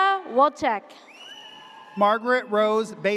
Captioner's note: audience cheers